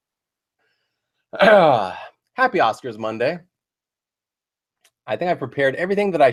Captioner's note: ahem